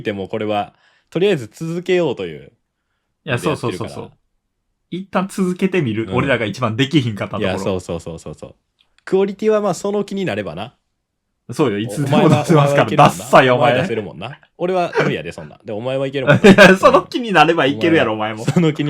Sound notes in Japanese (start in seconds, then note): 14.9 咳払い; 16.2 笑い